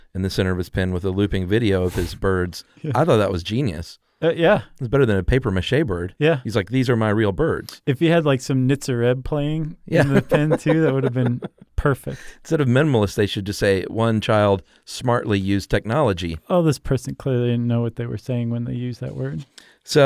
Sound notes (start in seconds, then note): 10.0 laughing